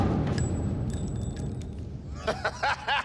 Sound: gun shooting; bullet shell hitting floor; laughing

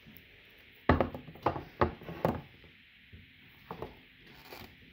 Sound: knife and pen noises

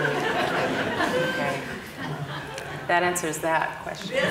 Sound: audience laughing

